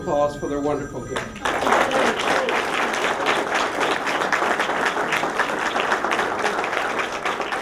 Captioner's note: applause